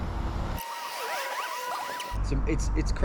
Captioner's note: film squealing